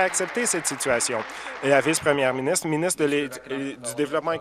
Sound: applause

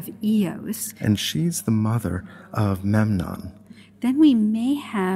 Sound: voiceover

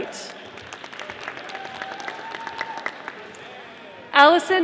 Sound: audience applauding

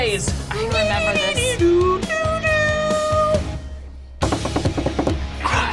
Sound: imitates guitar

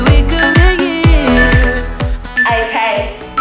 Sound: phone beeping

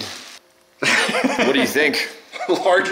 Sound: laughs

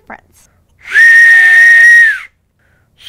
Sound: whistling; whistling at a higher pitch

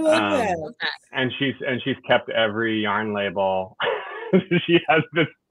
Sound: laughs

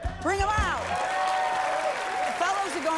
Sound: cheers and applause

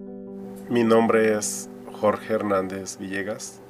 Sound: soft piano music; speaking Spanish

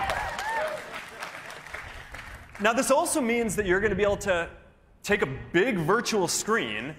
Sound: cheers and applause

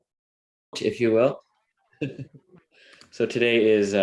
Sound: chuckles

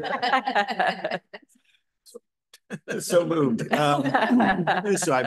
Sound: laughter

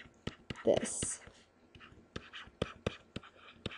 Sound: scribbling

